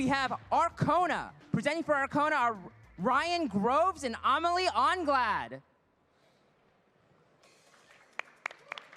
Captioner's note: applause